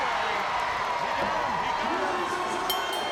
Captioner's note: bell ringing